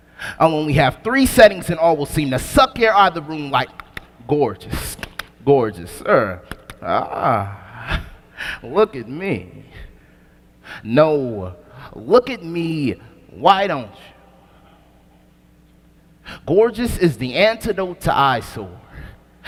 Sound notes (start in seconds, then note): 5.0 click